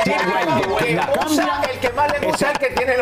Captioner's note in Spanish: risas